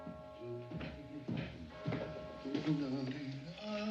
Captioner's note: HUMMlNG